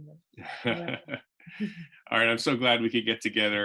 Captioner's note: laughs